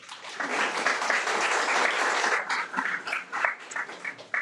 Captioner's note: audience applauding